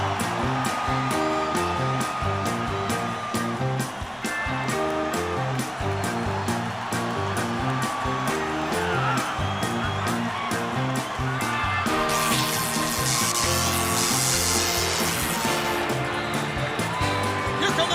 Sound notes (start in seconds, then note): 3.7 crowd cheering